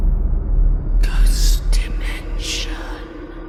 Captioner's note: ghostly Voice